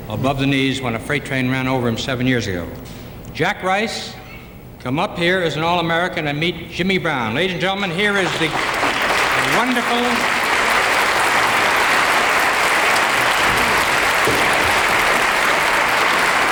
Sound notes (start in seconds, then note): 10.6 audience applauding